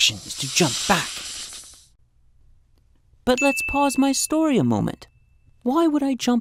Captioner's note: bell chime